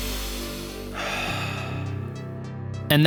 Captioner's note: exhaling; inhaling